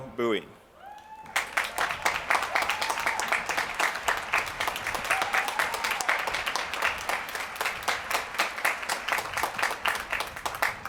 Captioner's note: applause